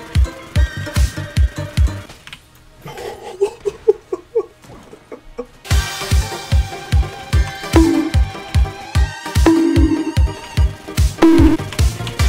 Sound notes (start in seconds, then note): 2.9 internal maniacal laughter